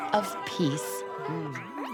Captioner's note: caterpillar noises; crowd chatter